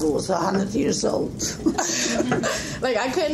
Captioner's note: laughing